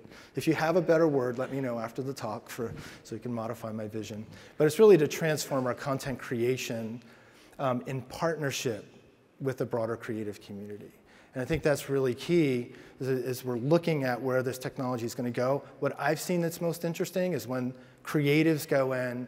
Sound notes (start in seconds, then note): none